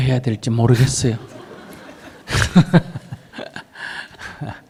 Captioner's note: audience Laughter